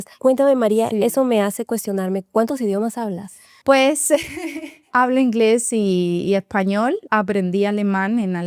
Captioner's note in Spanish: risas